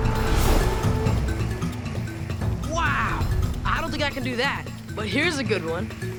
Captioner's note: none